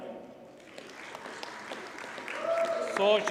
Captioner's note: audience cheers and applauds